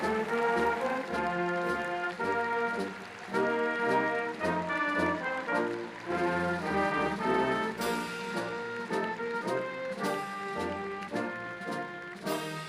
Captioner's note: applause